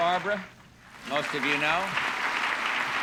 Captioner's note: audience applauding